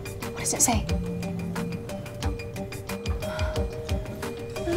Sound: phone vibrates

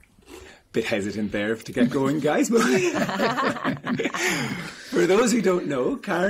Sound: all laughing

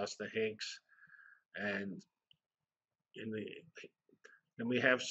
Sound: pause

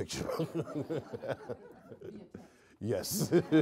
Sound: audience laughing

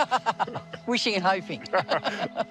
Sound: laughs

